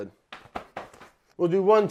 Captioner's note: smacking apron